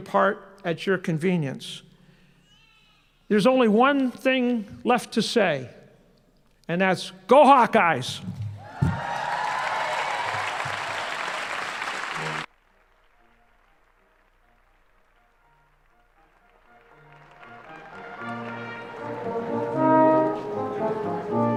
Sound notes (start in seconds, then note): 11.5 applause and cheering